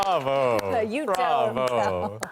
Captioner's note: cheers and Applause